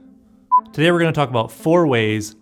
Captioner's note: beep